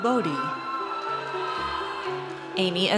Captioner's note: audience cheers